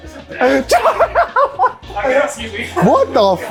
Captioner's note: laughs